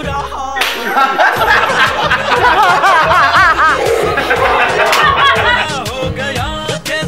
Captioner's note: Laughter